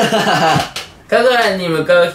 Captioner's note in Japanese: 笑い声